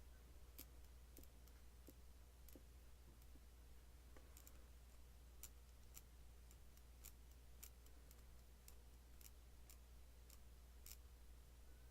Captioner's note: pen twiddling sounds